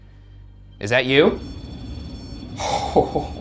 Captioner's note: REM-Pod beeping; chuckles